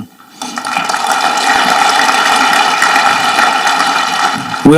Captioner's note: audience clapping